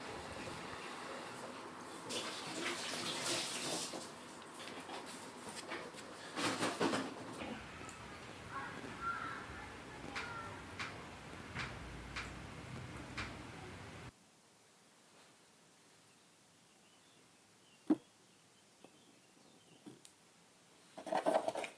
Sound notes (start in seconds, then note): 7.4 sounds of crafting. Children are playing in the distance; 14.4 moving things around the table, the sound of the room. Birdsong outside